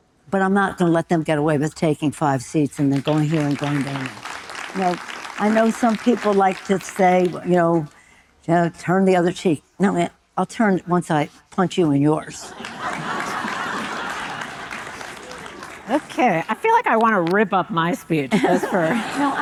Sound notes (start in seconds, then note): 2.8 audience applauding; 12.4 audience laughing